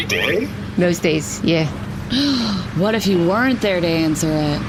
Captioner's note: gasps